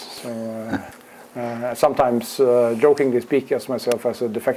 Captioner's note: laugh